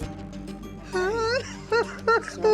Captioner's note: sobbing